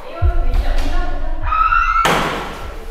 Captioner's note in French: Cri strident